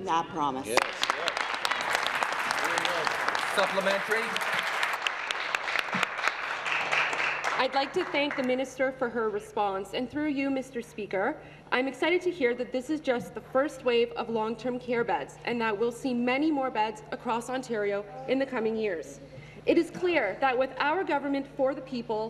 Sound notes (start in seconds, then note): 4.8 applause